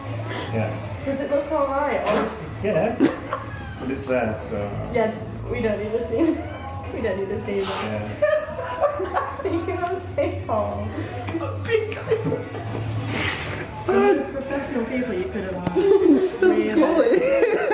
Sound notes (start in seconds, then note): 3.0 still laughing; 7.2 continuing to laugh; 11.1 laughing